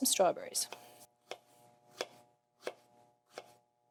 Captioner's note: knife thudding